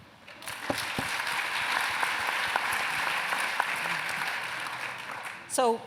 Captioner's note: applause